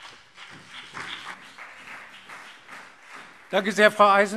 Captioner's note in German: Beifall BÜNDNIS 90/DIE GRÜNEN und CDU